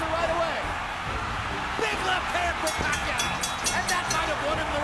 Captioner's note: bell rings